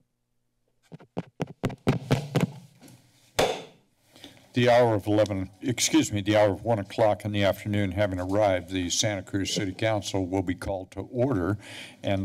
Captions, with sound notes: [mic tapping] - [bangs gavel] The hour of 11... Excuse me, the hour of one o'clock in the afternoon having arrived, the Santa Cruz City Council will be called to order